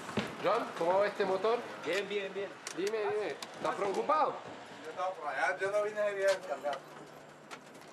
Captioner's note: Spanish spoken audio